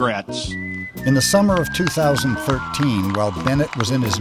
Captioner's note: voiceover